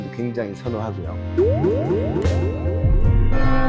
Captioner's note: spring sound